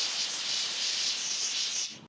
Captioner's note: hissing sound